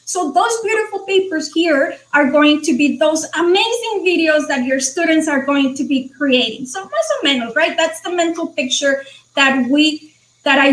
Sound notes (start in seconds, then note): 6.9 speaking foreign language